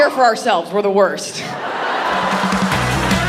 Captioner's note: audience laughing; upbeat music